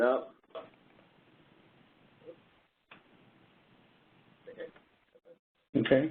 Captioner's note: 5 seconds pause